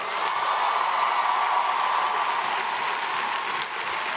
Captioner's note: crowd cheering